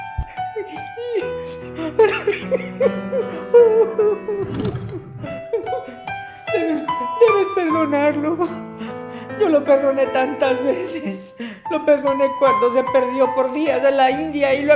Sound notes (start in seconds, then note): 0.2 emotional music; 3.2 crying